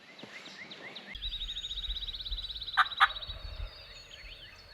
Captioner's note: birds chirping